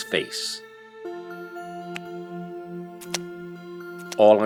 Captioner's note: liquid hits the Ground